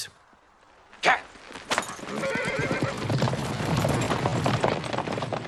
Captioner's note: horses neighing